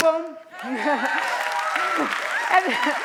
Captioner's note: cheering